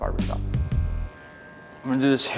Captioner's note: razor buzzes